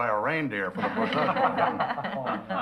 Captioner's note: laughing